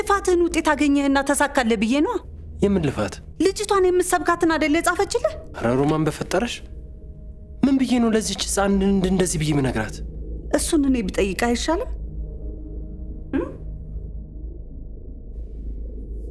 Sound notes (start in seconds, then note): 9.4 crying